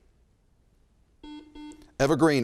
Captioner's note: buzzer chimes